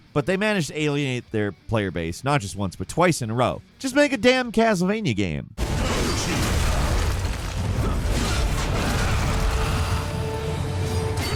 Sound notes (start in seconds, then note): 5.6 objects crashing; 5.6 swords whooshing; 8.0 character grunting